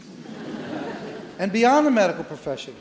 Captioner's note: audience laughs